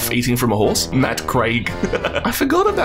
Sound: laughs

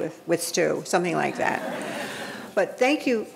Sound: audience laughing

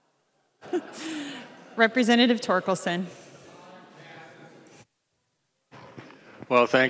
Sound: laughing

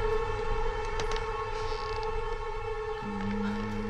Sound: creaking; man humming menacingly

